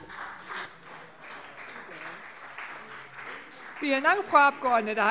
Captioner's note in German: Beifall CDU und vereinzelt BÜNDNIS 90/DIE GRÜNEN